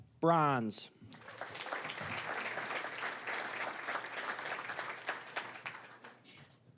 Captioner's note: applause